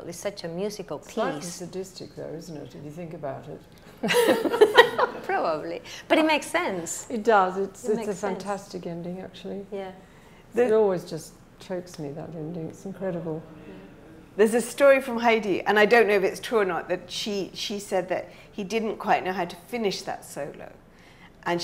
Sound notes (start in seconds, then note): 4.0 laughing